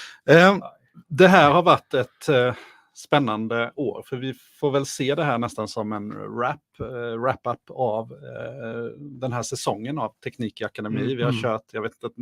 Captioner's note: speaking in Swedish